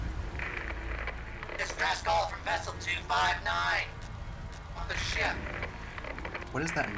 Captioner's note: radio voice